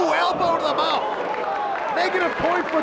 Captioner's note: spectators applauding